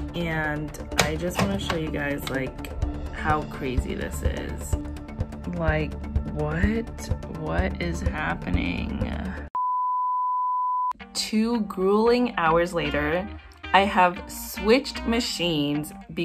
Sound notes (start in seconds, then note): 9.5 no signal beep